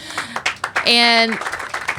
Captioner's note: applause